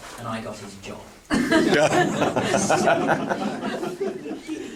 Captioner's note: laughing